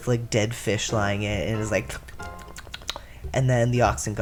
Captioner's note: drinking noises